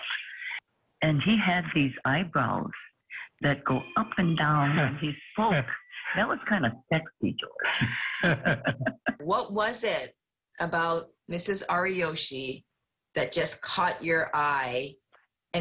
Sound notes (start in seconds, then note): 7.6 laughs